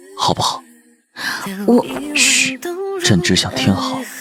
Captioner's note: shh